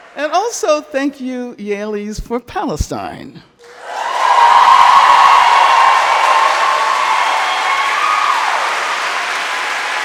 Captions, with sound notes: and also thank you Yales for Palestine. (crowd cheering) (crowd clapping)